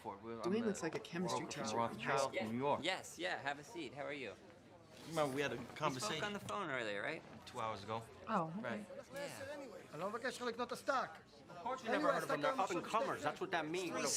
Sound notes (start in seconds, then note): 10.1 speaking in foreign language